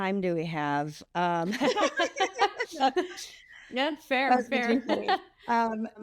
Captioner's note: group Laughter